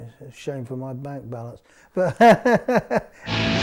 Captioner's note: laughs